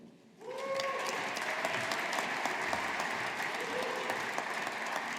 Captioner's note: audience applauding